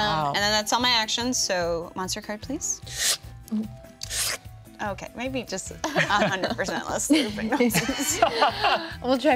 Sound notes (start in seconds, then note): 4.0 woman slurping; 7.7 group laughing